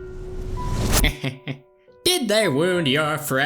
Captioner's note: dimentio chuckles